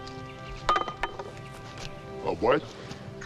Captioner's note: ax clatters